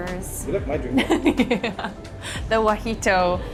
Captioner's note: laughs